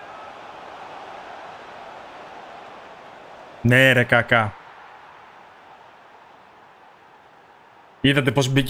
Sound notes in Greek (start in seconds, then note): 4.3 χειροκρότημα